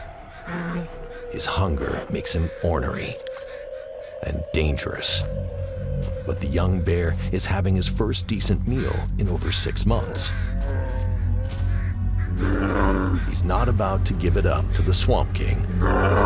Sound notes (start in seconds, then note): 12.2 bear grunts; 15.4 bear growls